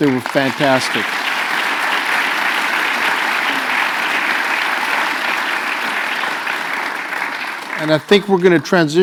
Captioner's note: applause